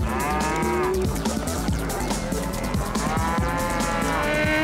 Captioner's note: cows mooing